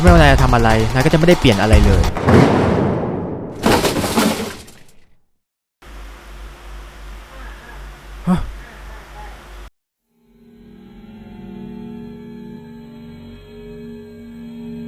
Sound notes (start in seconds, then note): 3.5 falling noise